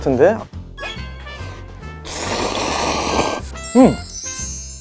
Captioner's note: quickly slurps